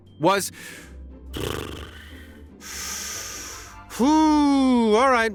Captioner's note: exhales deeply